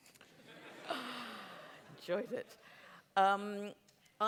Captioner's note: laughter